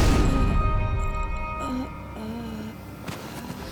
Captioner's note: groaning